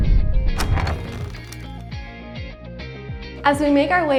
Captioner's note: door opens